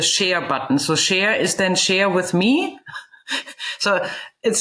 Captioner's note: chuckles